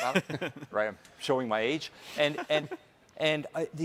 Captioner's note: hosts laughing